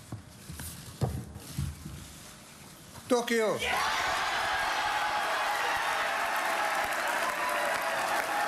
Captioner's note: cheers and applause